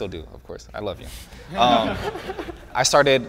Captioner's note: laughing